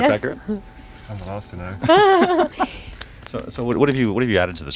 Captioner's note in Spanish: Laughs